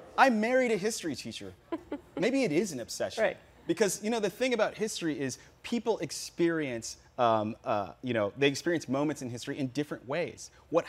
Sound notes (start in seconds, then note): 1.6 giggles